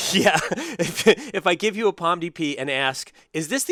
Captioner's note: laugh